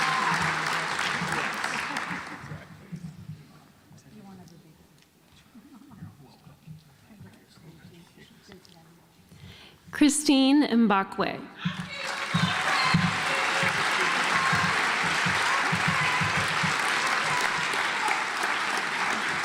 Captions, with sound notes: Christine Mbakwe (audience applauds)